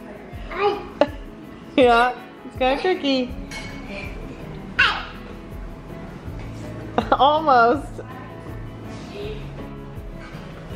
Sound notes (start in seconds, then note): 4.9 yells